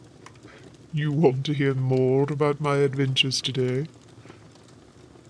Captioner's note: chuckling